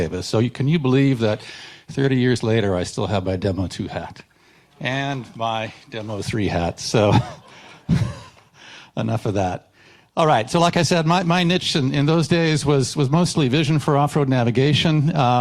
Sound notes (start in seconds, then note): 7.3 chuckles